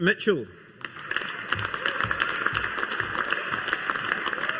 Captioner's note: audience applauding